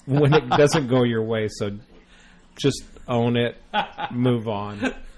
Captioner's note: DJ laughs